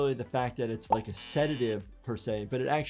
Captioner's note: buzzer buzzing